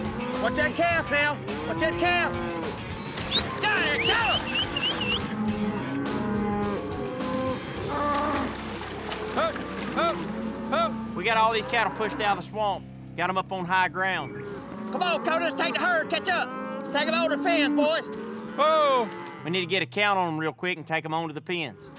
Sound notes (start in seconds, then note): 3.8 whistling; 5.5 mooing